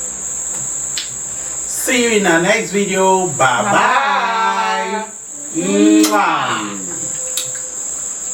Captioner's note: kisses